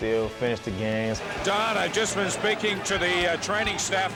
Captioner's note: voiceover